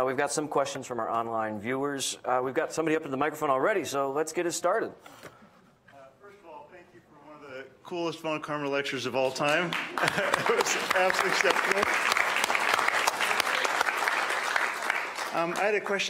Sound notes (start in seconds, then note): 10.0 laughing; 10.3 applauding; 13.5 congregation applauding